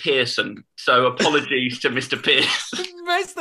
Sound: laughter

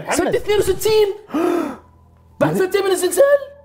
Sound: gasps

